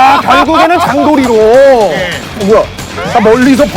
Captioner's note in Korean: 탕탕탕탕